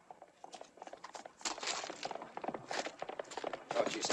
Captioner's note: horse galloping